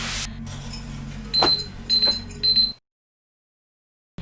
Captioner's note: beeping